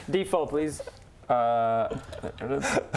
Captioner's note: proud laugh